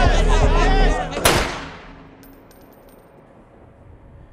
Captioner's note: yelling; gunshot